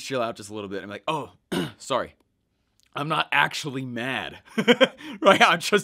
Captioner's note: laughing